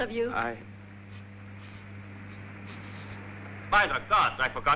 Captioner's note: sniffing